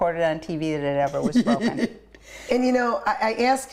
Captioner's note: laughing